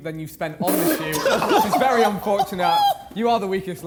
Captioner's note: men laughing